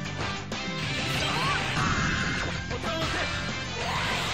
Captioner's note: grunting, screaming